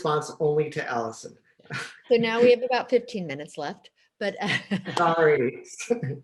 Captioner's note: laughs